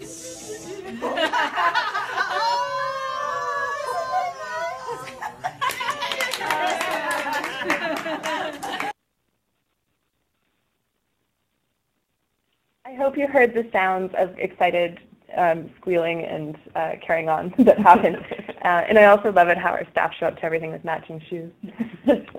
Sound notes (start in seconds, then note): 0.0 laughing and cheering